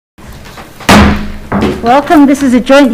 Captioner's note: gavel bangs